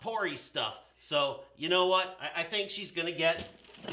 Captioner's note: box jingles